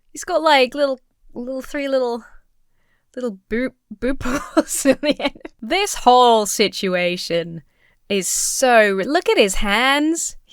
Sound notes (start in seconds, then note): 4.1 Emma laughs